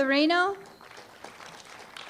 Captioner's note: applause